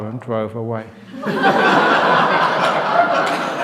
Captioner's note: laughter